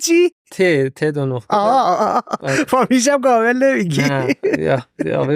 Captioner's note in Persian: خنده